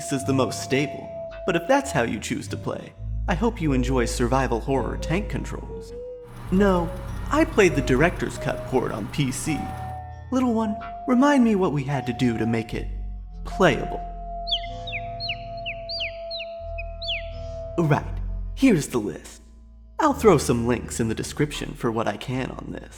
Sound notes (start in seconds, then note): 12.8 PC whirring quietly; 14.5 bird tweets